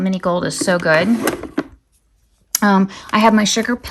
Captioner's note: items shuffling